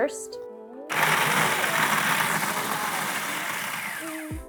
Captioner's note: food processor whirring